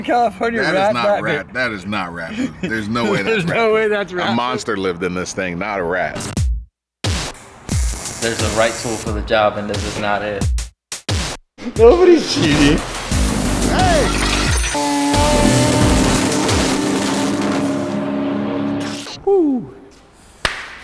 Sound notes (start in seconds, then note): 6.6 upbeat music; 13.9 shouting; 15.1 engine revving